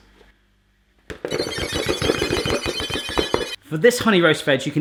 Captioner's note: ominous tinkling